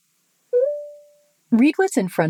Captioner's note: Meta beeps